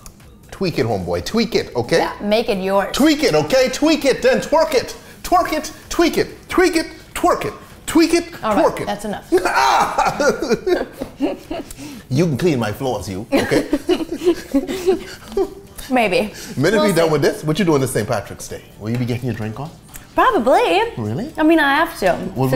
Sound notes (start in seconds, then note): 9.3 laughing; 9.4 groans